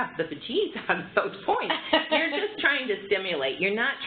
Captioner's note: laughter